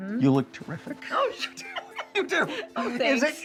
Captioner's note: laughs